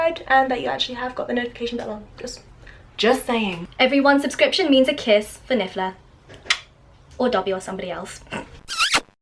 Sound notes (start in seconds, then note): 6.5 kiss; 8.6 kissing noise